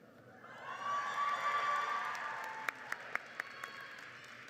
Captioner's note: crowd cheers